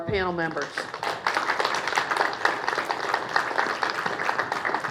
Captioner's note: applause